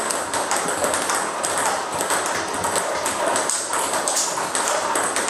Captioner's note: ball ping pong hitting continues